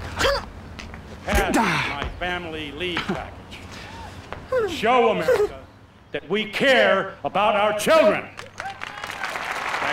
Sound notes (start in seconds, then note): 1.5 gasps; 4.4 stifled Moans